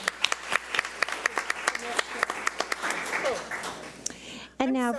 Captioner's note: audience applauds